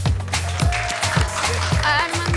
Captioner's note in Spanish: Continúan los aplausos